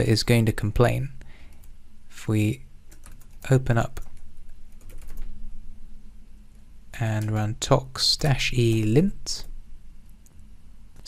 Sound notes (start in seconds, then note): 4.8 keyboard clicking